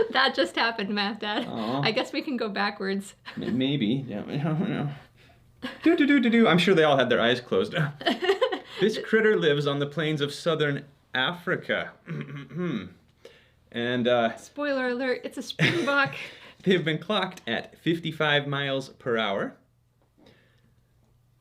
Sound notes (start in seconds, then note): 8.0 laughs